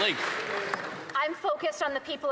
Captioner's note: some Applause